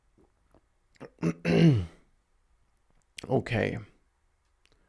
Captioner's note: clears throat